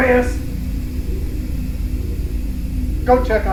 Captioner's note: spaceship whooshing